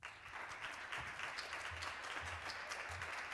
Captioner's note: applause